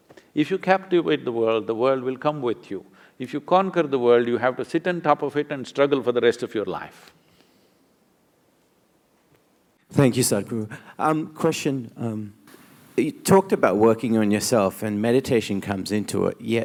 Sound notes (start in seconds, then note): none